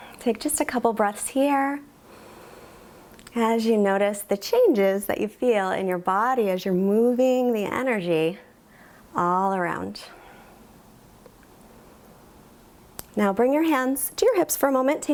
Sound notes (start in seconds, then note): 0.0 exhales; 2.7 inhales